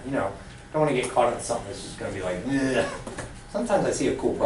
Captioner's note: gags